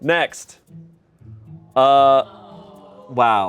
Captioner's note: audience exclaims